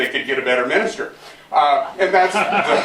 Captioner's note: laughter